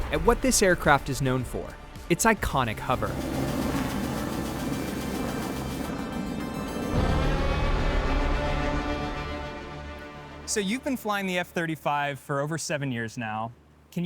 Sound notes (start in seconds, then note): 3.4 aircraft humming